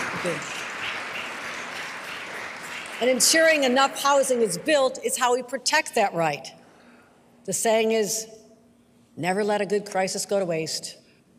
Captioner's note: applause